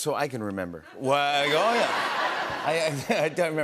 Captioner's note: laughter